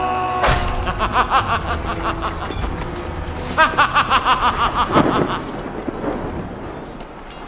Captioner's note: Farquad laughing